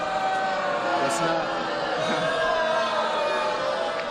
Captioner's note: booing